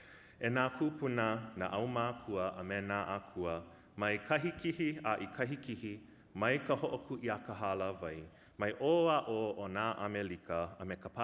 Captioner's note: speaking Hawaiian language